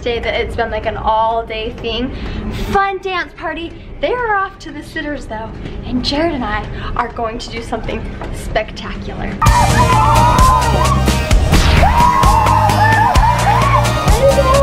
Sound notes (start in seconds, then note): 9.7 yelling; 11.9 bright music